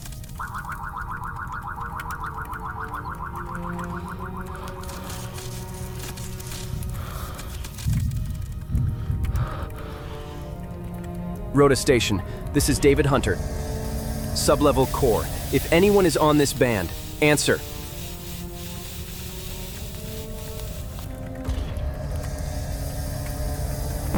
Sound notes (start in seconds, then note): 0.0 eerie music; 7.9 weak electric sparking and tense breathing; 17.8 tense music